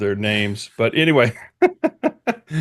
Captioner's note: laughs